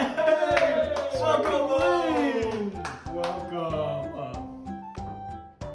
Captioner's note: excited cries